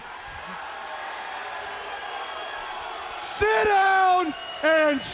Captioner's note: crowd chatter